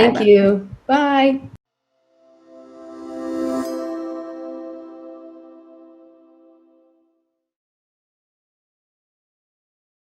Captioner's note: KnowledgeWorks logo displayed over swelling sound